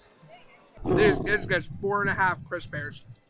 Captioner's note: bear roaring